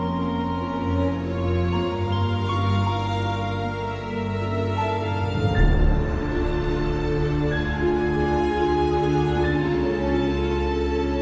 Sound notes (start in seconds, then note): none